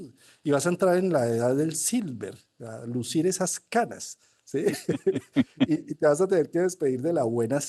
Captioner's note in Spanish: risas